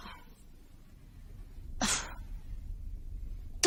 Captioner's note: sighs